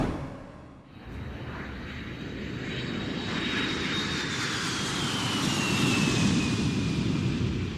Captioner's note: title card music; airplane taking off sound